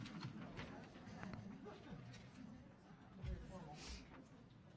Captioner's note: audience chatting